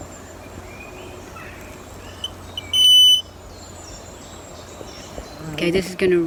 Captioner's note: birds chirping; beep